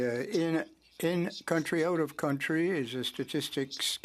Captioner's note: speaking French